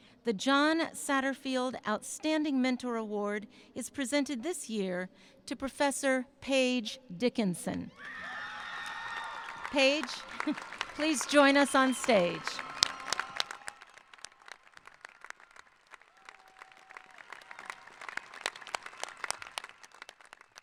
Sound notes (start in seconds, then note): 8.2 applauding; 8.2 cheering